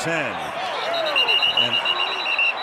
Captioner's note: whistle blows